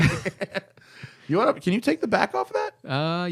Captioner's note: laughter